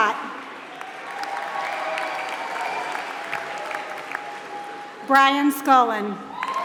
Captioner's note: applause